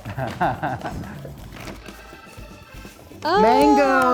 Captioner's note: laughs